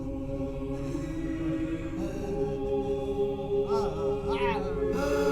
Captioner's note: Betts screaming and crying